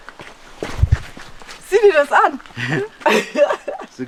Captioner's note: laughter